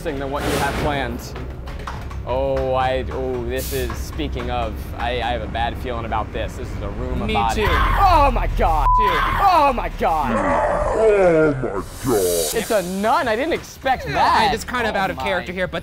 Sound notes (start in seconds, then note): 10.3 screaming